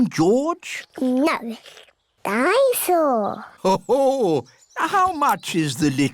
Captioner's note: daddy pig laughs